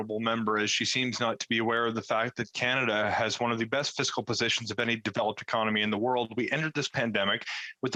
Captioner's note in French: voix de l'interprète